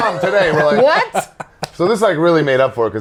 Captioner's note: laughs